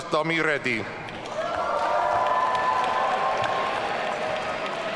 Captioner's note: audience cheering